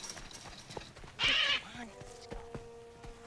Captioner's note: Polly squawking